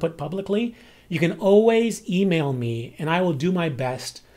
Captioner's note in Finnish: englanniksi